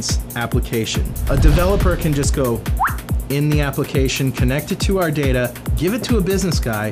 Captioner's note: whistle